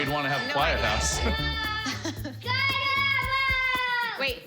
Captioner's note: yelling